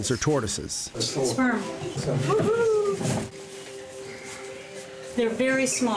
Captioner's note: none